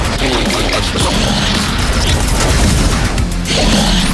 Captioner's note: 2Bells growling